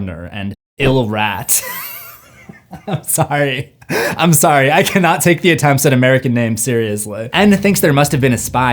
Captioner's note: laughing